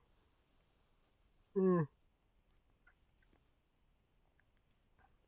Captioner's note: yawning